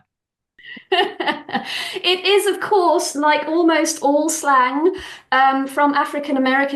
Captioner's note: laughs